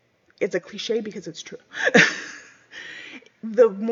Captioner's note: laughs